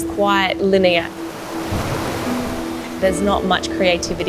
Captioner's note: water gushing